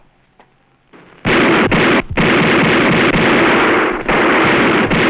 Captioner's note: gunfire